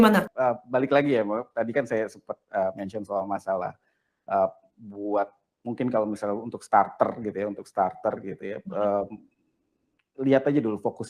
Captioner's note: non-english speech; non-english speech